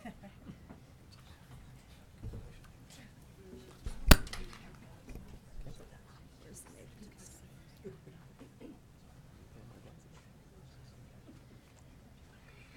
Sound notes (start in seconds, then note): 0.0 woman laughing; 3.3 people chattering; 7.5 people chattering